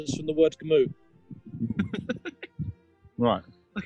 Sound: laughing

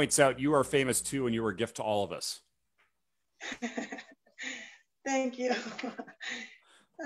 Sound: chuckles

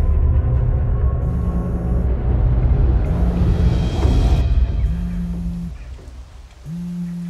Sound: phone vibrates

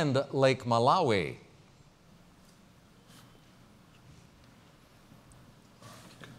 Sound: pause

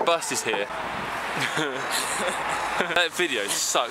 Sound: stupid laughter at nothing in particular

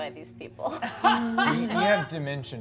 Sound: laughing

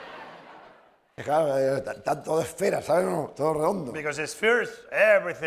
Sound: laughter; speaking spanish

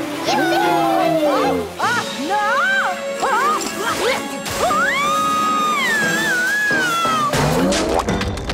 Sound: squealing

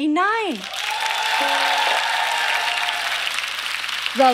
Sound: audience clapping

